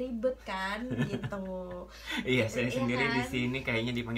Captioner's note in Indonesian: ketawa